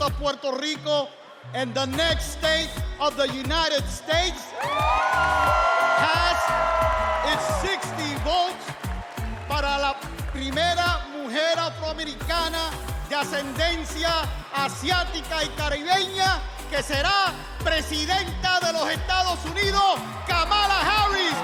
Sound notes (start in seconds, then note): 8.6 cheers and applause